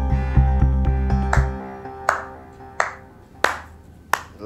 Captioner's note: slow applause